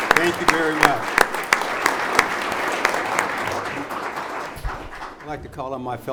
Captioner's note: audience applauds